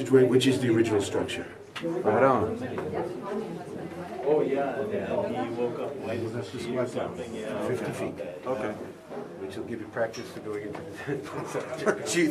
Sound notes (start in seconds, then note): 4.3 tourists chatting